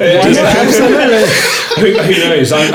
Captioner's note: laughing